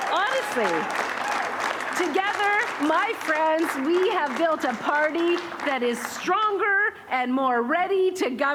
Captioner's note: cheering